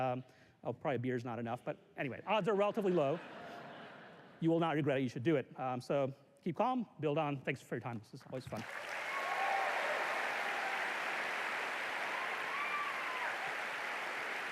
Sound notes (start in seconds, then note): 2.7 laughter; 8.5 cheers and applause